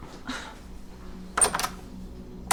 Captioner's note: Kristin scoffs; door opens, closes